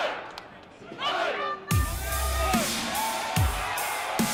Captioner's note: fans chanting